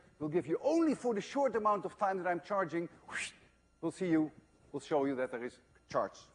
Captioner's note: wssshhht